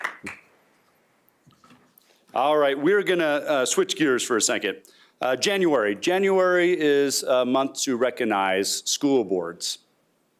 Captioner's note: applause